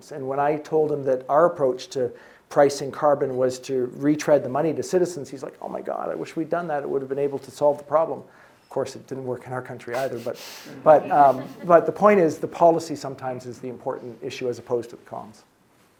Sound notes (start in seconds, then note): 10.6 audience chuckling